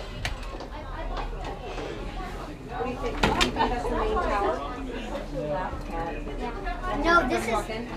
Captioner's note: party chatter